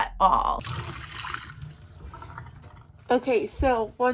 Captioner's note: water running